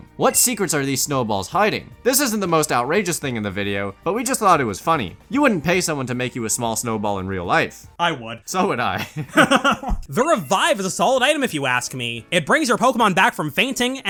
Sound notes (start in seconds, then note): 9.0 stupidest laugh you’ve ever heard